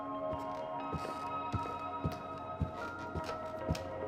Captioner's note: footsteps thudding; stairs creaking